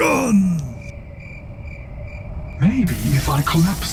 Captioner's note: crickets